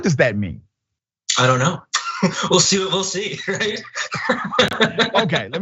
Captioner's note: laugh